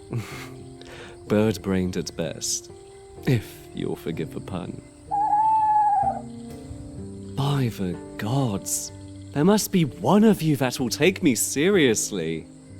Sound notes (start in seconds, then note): 0.1 chuckles; 5.0 owl HOOTS